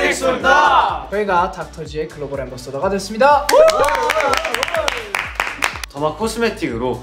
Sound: applause

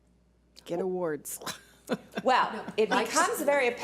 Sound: laughing

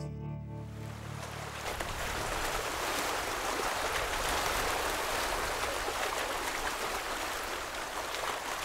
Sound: water lapping

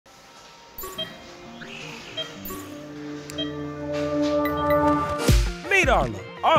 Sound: machine beeping; tense music

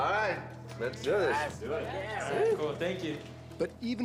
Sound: subdued cheering; voiceover

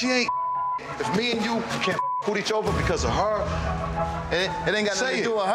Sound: beep

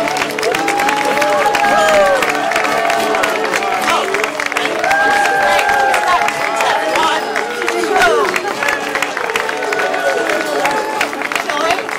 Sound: applause

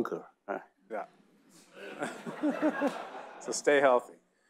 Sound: audience laughing

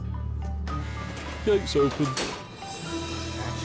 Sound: buzzer

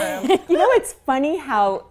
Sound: laughing

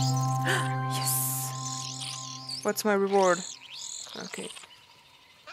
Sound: gasps

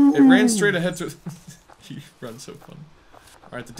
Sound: laughs

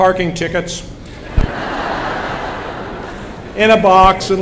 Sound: laughter

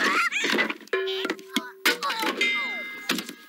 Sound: Babe Groaning

